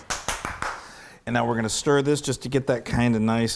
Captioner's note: applause